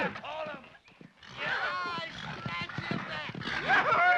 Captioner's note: hooves pound; horse grunts; man clamors; men cheer